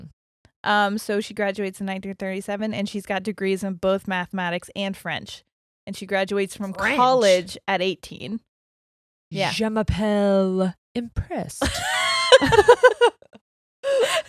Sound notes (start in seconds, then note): 9.8 speaking in French; 11.6 both laughing